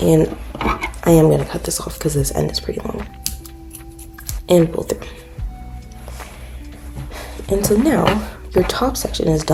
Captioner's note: scissor cuts